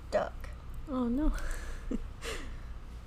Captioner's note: laughs